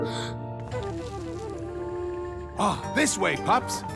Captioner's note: gasps; rocks crumble